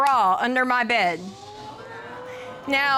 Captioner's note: audience exclaiming